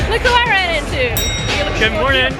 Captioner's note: bell rings